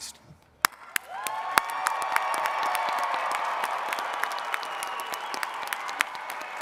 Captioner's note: attendees cheering and clapping